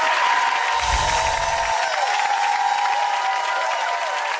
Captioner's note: cheers